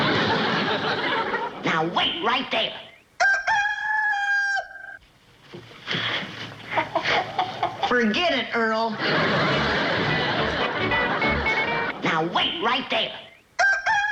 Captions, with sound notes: Now, wait right there! Now, wait right there! (crows) (clucking) Forget it, Earl. Now, wait right there! Now, wait right there!